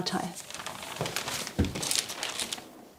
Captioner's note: rustling